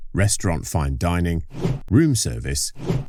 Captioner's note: whoosh